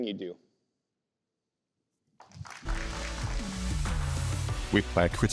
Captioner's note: applause